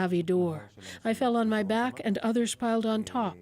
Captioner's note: speaking Foreign Language